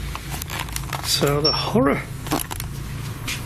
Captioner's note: beep